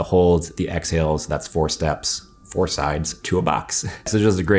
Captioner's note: chuckles